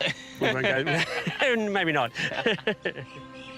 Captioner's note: laughs